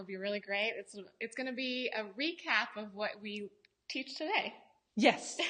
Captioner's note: laughs